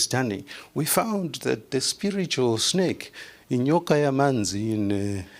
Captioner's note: non-english speech